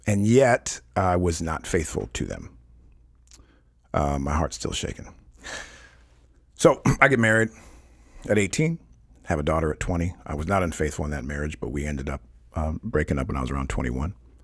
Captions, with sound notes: and yet I was not faithful to them. My heart's still shaking. (giggling) So I get married at 18, have a daughter at 20. I was not unfaithful in that marriage, but we ended up breaking up when I was around 21.